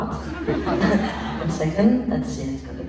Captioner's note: laughs